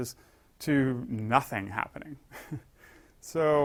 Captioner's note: laugh